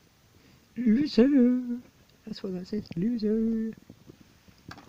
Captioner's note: sing songy voice